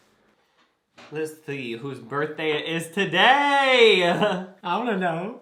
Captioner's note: laughs